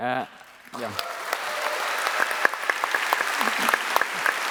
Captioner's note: applause